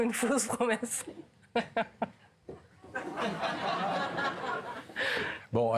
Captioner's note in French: Rires